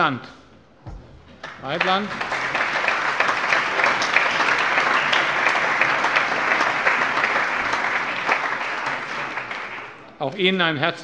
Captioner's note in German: Allgemeiner Beifall